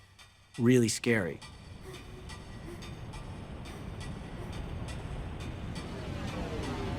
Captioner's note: clock ticking